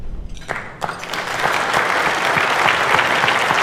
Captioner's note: applause